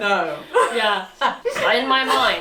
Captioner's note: laughs